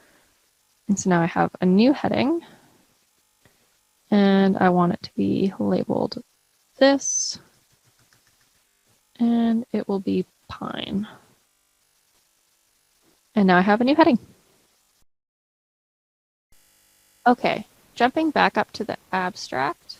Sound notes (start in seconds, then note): 7.7 typing